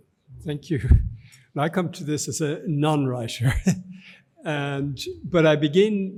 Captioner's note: chuckles